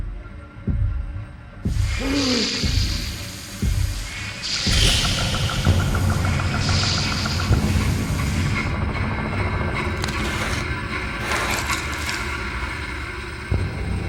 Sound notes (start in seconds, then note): 1.8 Max gasps; 1.8 creature chittering